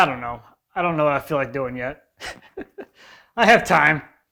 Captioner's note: laughing